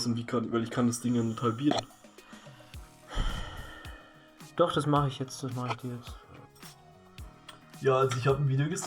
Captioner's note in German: seufzt